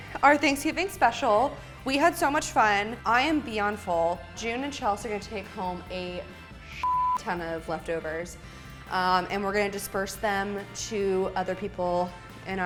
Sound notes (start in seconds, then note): 6.8 beep